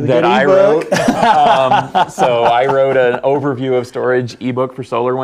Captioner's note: laugh